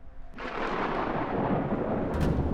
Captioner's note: thunder crackles